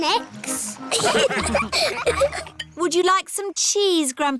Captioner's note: laughter